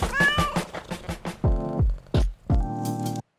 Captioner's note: cat meows